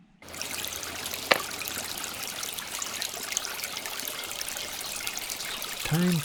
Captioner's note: water flowing